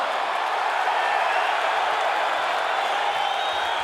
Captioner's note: crowd cheering